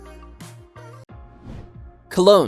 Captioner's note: bright music continues; air whooshing